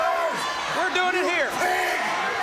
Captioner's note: crowd cheering